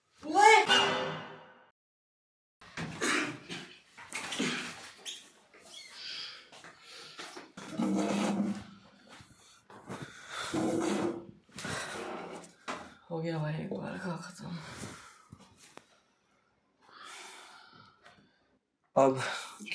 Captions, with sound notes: OYE!!! (coughing) (sighs) We are done with this now. Now...